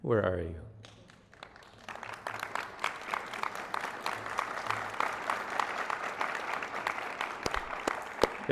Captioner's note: applause